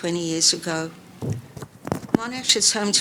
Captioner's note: book thuds